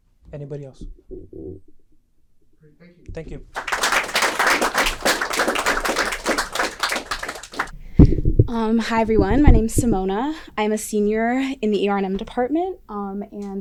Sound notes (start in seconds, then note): 8.6 applause